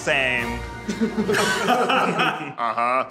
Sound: laughing

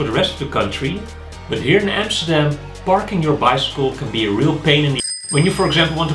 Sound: ring-ring

